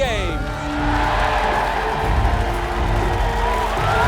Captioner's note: crowd cheering